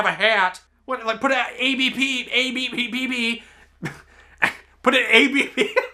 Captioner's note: laughs